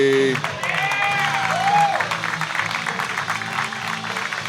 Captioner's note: audience cheering